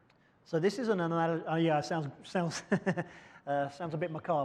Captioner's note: chuckles